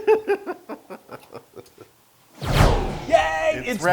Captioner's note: laugh